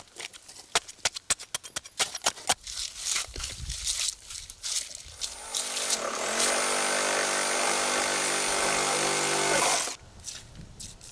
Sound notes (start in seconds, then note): 5.2 machine drilling